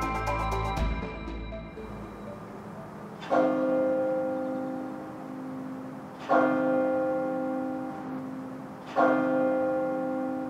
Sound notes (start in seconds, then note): 0.0 bright music fades; 0.0 bell rings